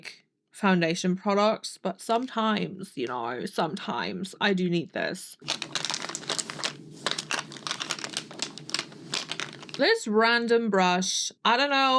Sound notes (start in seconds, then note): 5.4 makeup clattering in the bag